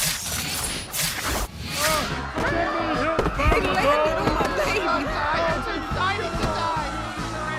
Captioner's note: sounds of Slicing and Immortality